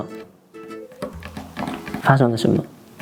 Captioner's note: calculated table knocking